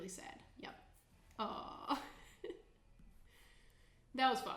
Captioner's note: chuckling